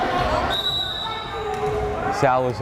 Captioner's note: whistle blares